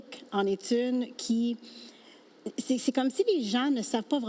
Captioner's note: speaking French